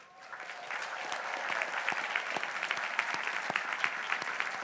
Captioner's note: crowd applauding